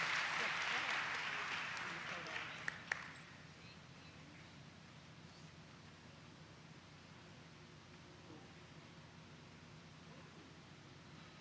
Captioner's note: applause